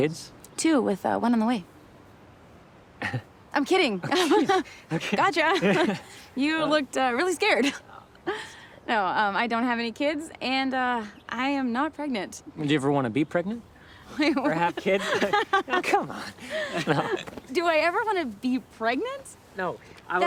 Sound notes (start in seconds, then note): 4.0 laughs; 4.0 Anthony chuckles; 14.2 laughing; 14.5 both laughing